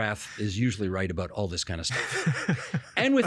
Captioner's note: laughing